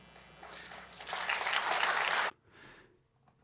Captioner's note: audience applauding